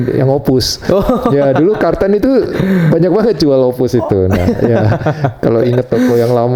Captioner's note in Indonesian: tertawa